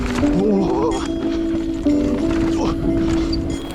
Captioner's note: grunting; ambient lo-fi music